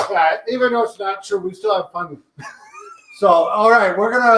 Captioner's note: chuckles